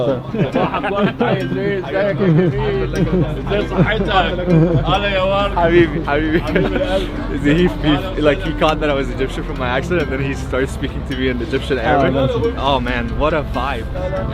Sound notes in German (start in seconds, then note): 3.9 Mann antwortet etwas auf Arabisch